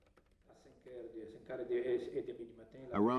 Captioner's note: Italian spoken language